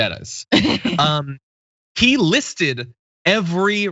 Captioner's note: laugh